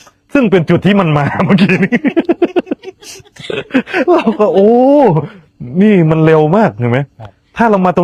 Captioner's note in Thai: เสียงหัวเราะ